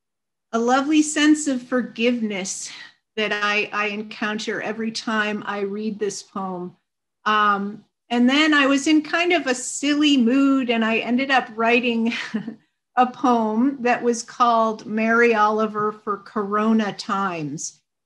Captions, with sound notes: a lovely sense of forgiveness that I, I encounter every time I read this poem. And then I was in kind of a silly mood and I ended up writing, (chuckles) a poem that was called, "Mary Oliver for Corona times."